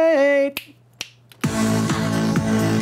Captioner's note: snapping fingers